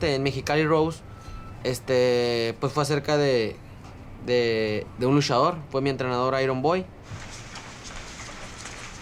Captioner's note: speaking in Spanish W/ English subtitles